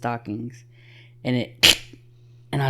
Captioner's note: snaps